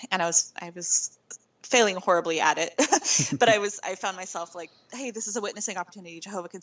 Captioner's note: laughing